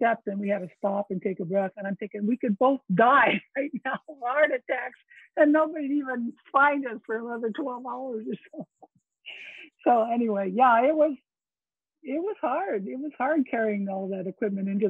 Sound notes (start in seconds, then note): 7.5 laughs